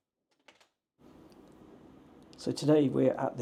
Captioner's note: door closes